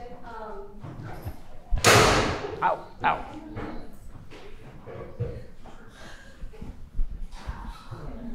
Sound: clattering & footsteps

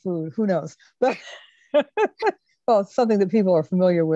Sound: laugh

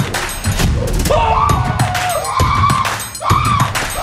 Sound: upbeat music; shouting

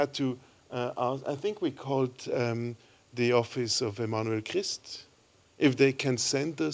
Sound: french

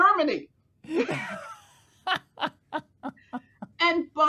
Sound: laughing

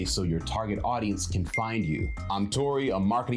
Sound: bell rings

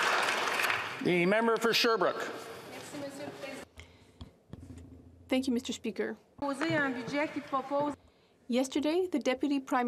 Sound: alause

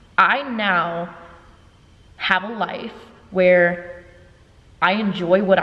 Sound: none

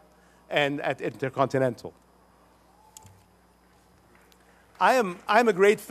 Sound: applause

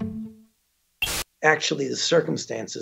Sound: static buzzing

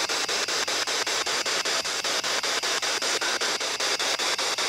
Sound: loud, choppy static

